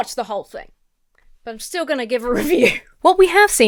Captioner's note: laughs